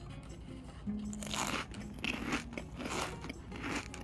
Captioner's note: chewing